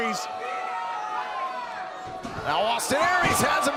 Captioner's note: crowd cheering